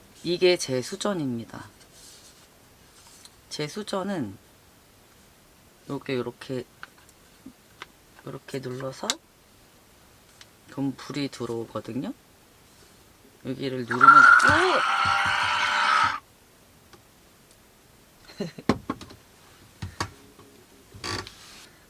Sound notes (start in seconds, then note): 13.9 ugh